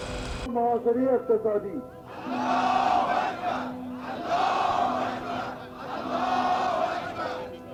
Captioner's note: leader and crowd speaking in foreign language